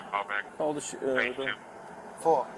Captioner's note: radio chatter